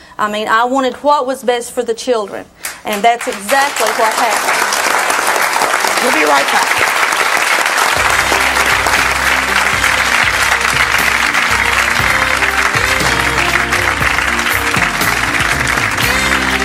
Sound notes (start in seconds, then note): 4.5 audience clapping; 8.0 audience clapping; 10.2 jazz music